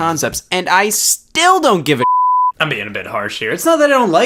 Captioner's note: beep